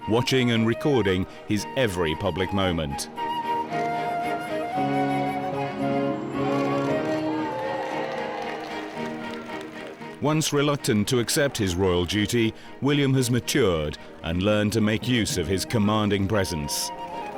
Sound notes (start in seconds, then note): 4.8 crowd cheering; 5.2 upbeat orchestral music